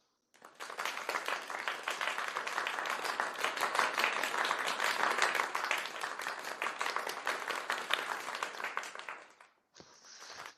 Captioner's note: applause